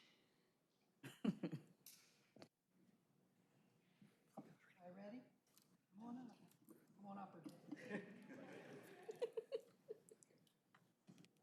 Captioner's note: laughter